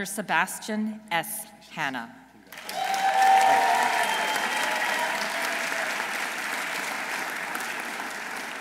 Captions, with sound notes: Dr. Sebastian S. Hanna. -(audience cheering) -(audience applauding)